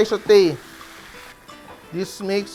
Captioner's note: sizzle